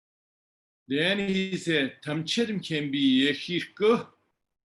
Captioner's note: tibetan